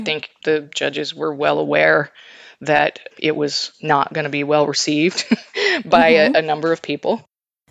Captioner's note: chuckles